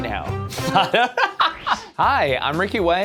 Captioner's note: laughter